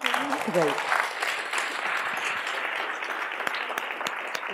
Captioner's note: applause